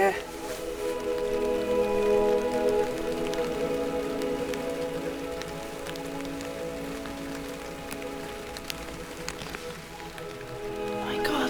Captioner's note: light rain